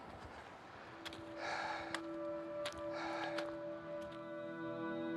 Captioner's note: heavy breathing